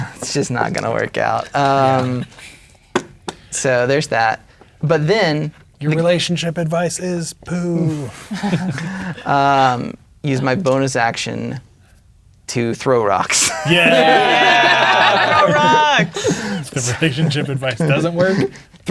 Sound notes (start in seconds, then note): 8.0 players laughing; 13.4 all laughing